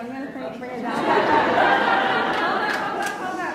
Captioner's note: laughs